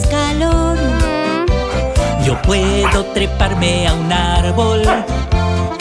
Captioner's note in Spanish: Ladrido